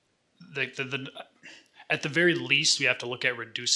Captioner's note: stammers